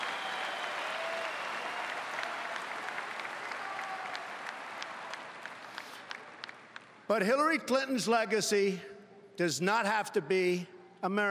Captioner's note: cheering and Applause